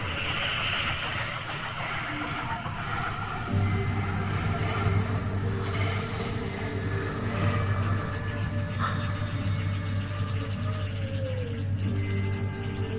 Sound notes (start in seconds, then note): 0.1 creature chittering; 3.6 soft dramatic music; 8.9 Wendy gasping